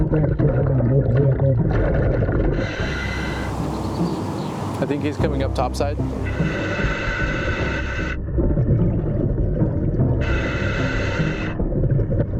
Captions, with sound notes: especially on this old vehicle. (suspenseful music continues) (mouthpiece hissing) (birds chirping) (suspenseful music continues) - I think he's coming up top side. (suspenseful music continues) (mouthpiece hissing)